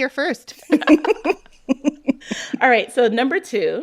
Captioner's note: laughter